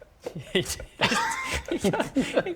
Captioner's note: breathe